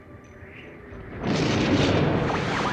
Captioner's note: guntur menggelegar